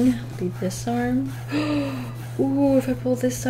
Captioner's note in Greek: Κοφτή ανάσα